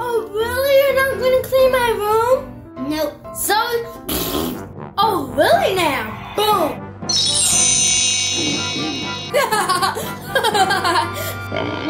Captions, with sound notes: - Oh, really? You're not gonna clean my room? - Nope, sorry. (blowing raspberry) - Oh, really now. Boom. (laughing)